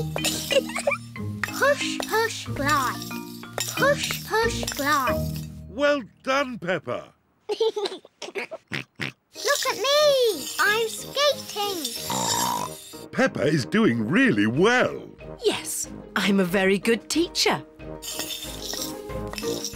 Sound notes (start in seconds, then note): 0.2 giggles; 7.5 giggles; 12.0 snorts